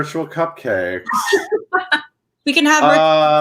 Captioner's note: laughs